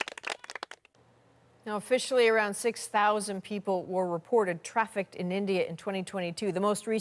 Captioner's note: applause